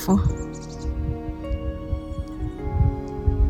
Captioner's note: bird chirping